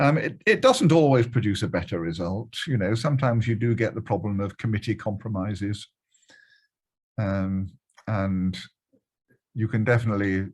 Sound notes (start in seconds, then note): none